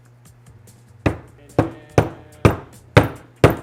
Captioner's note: thudding